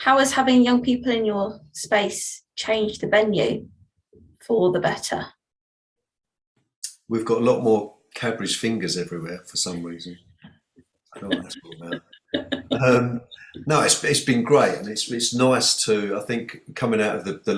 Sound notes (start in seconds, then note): 11.2 laughing